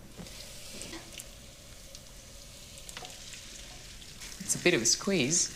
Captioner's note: pan sizzles quietly